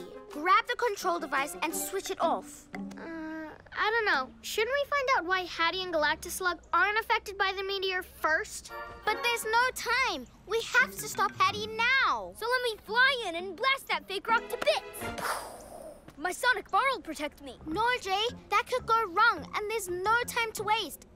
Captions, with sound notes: grab the control device and switch it off! Hmm... I dunno. Shouldn't we find out why Haddy and Galactoslug aren't affected by the meteor first? But there's no time! We have to stop Haddy now! So let me fly in and blast that fake rock to bits! (Blast sound) My sonic bar will protect me. No, Jay! That could go wrong and there's no time to waste.